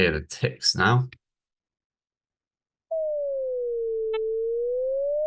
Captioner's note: same wave tone plays with ticks